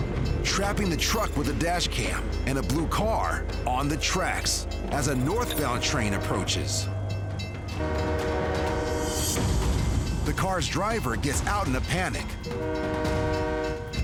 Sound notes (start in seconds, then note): 5.6 train horn blaring; 6.6 bell dinging; 12.4 train horn blaring